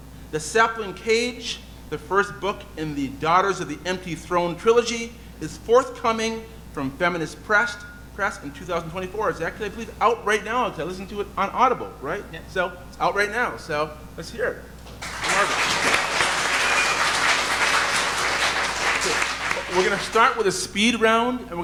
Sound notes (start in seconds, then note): 14.9 audience applauding